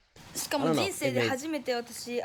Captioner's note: speaking in foreign language